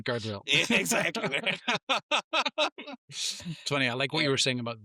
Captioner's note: laughing